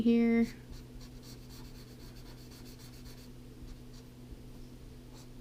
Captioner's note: pen scratching